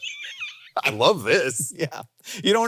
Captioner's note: laughs